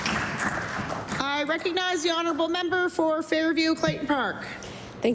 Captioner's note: applause